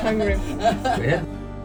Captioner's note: laughter